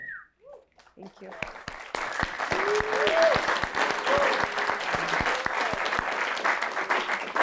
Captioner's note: applause